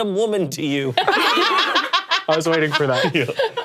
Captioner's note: all laughing